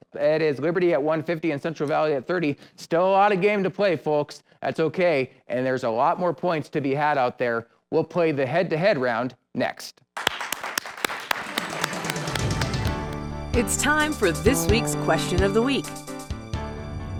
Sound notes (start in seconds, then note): 10.1 clapping; 13.4 voiceover